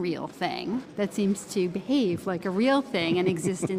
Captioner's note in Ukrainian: Сміється